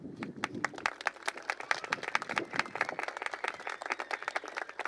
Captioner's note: applause